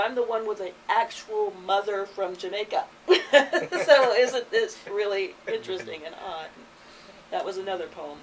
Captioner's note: all chuckle